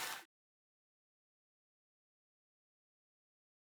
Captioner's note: clapping